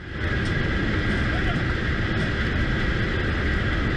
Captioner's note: engine roaring